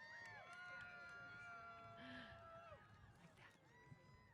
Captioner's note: applause & Cheers